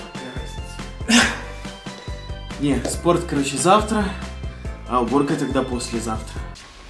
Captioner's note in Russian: Вздох